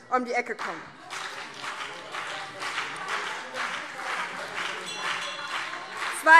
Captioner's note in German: Beifall BÜNDNIS 90/DIE GRÜNEN und CDU - Zurufe - Glockenzeichen